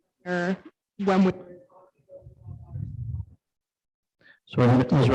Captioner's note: mic goes off